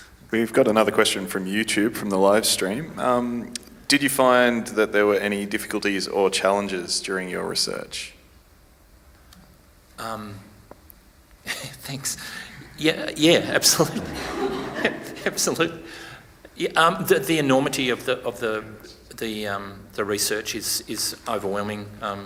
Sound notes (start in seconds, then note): 13.4 attendees laugh